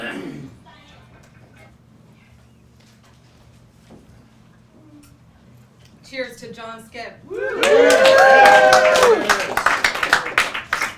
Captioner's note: applause